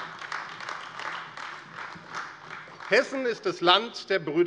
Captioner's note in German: Beifall AfD